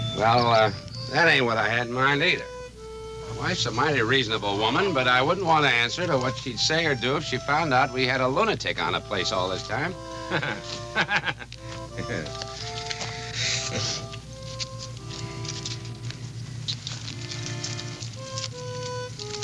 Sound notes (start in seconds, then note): 10.2 Homer laughing; 13.0 light harmonic music